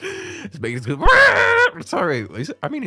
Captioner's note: wahhhh